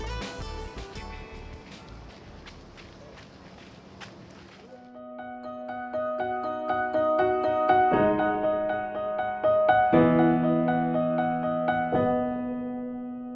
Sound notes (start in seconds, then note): 2.3 footsteps